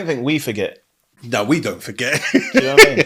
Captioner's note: laughing